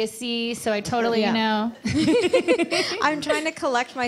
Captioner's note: laughs